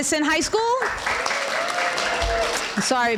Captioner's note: applause